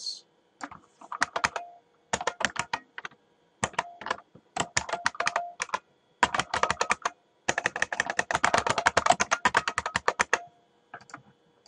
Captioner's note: typing